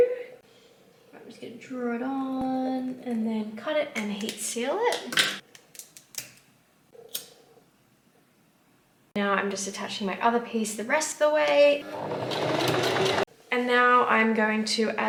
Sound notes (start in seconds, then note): 11.8 sewing machine surges